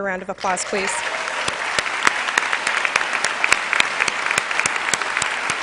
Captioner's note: cheers and applause